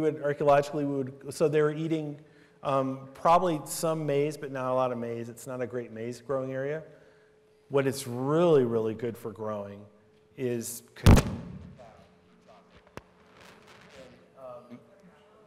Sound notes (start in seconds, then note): 10.8 audio cuts out